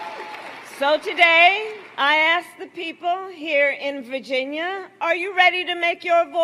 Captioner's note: applause